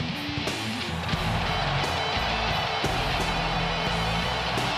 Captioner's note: audience cheering